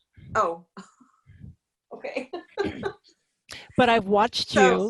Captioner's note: laughs